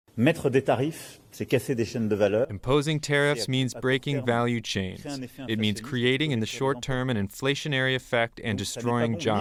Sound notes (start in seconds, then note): 3.3 through translator